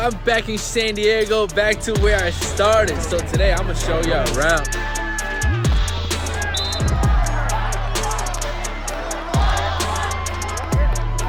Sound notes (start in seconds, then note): 6.8 whistle blows; 8.4 upbeat rap music